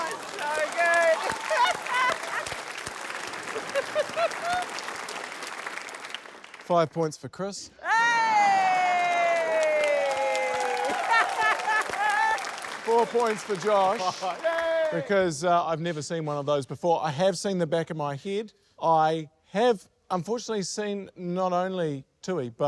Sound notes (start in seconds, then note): 0.0 laughs; 2.2 cheering, applause; 10.8 laughter